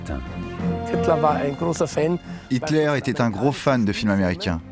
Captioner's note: German spoken audio